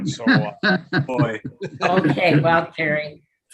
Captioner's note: all laughing